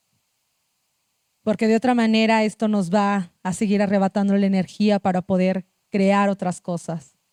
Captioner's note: speaking Zapotec language